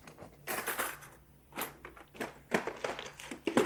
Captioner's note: items rattling